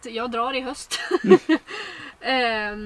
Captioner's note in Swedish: Skrattar